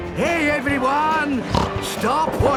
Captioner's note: snorts